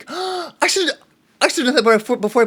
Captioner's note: gasps